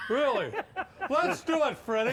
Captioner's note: laughing